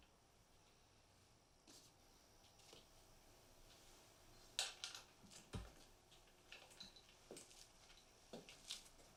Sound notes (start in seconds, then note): 5.1 hardware clattering